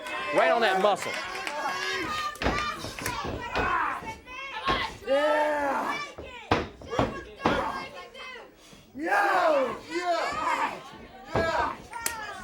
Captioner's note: crowd cheering